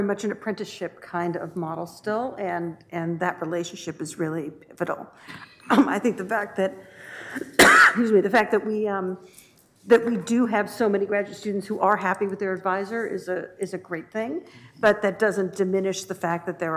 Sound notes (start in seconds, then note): 7.3 coughs